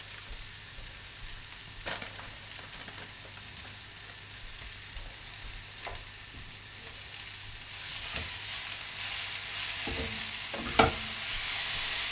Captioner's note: sounds of frying and water pouring